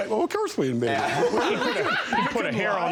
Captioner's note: laughter